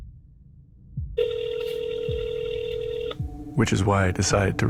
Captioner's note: phone ringing